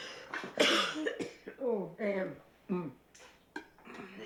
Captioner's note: coughs